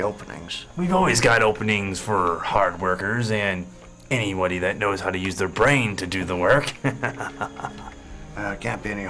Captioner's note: laughing